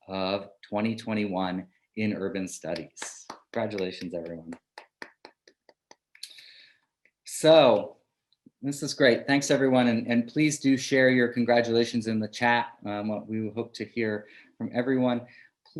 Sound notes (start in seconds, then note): 4.6 clapping